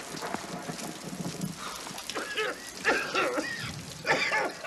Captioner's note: exhales; coughing